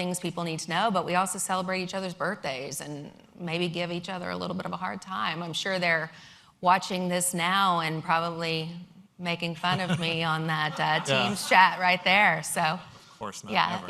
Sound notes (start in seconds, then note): 9.6 laughter